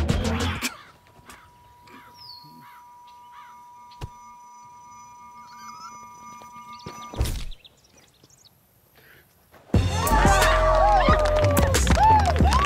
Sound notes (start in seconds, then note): 1.0 suspenseful tone; 7.1 body thudding; 9.7 crowd cheering